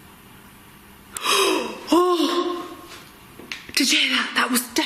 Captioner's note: gasping